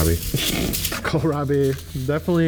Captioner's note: snorts